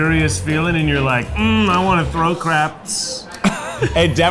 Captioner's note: laughs